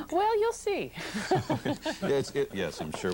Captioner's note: laughter